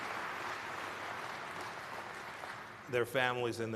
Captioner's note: applause